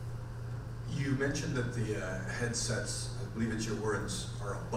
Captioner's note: voiceover